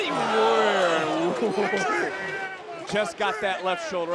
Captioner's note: chuckles